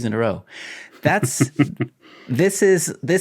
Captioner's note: chuckling